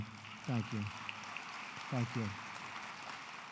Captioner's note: applause